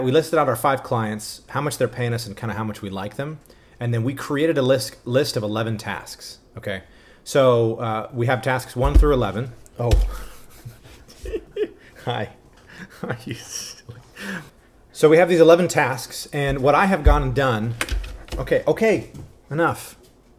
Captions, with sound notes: we listed out our five clients, how much they're payin' us and kinda how much we like them. And then we created a list of 11 tasks, okay? So we have tasks one through 11, (Panda thumps) oh! (giggles) Hi, hi, you silly. So we have these 11 tasks, and what I have gotten done, okay, okay, enough!